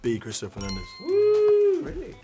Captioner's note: chime dings